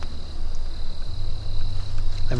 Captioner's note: bug noise